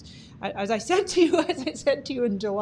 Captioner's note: laughing